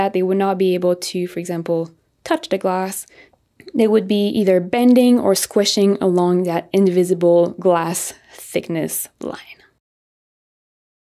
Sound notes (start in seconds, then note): none